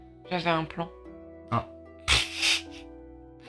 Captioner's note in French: Rire